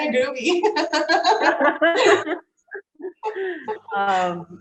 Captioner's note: both laughing